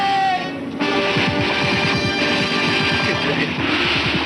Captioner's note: gunshots continue